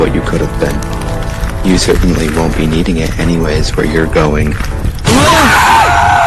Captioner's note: ground rumbles; boom; liam, asher, and stonewielder scream